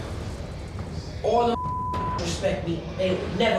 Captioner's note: beep